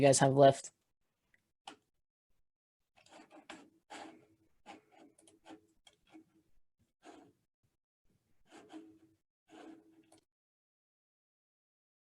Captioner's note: no speech